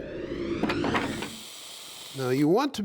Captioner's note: wood whooshing and clattering